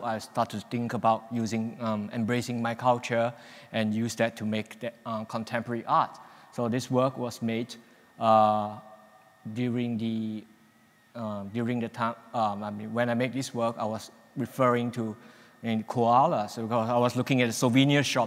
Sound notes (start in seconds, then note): none